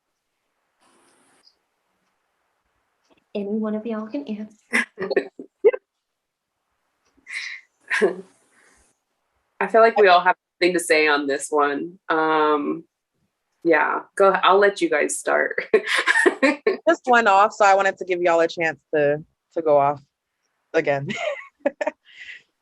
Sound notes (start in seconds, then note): 5.3 awk silence; 15.7 laughter; 21.0 laughter